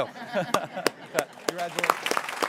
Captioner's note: people laughing